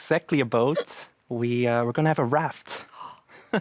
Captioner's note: laughs